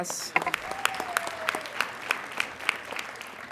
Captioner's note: applauding